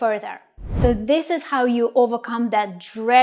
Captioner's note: air whooshes